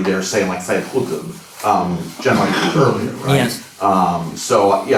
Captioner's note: non-english